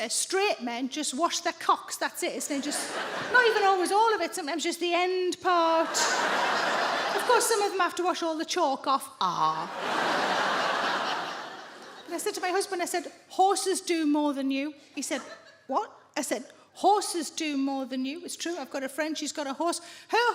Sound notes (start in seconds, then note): 5.7 audience laughing; 9.6 audience laughing